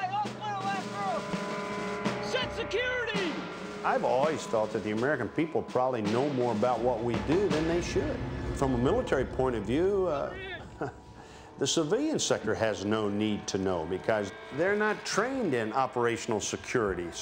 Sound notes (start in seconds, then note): 10.4 chuckles